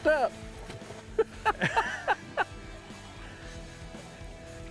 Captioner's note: laughs